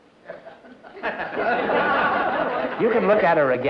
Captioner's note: laughter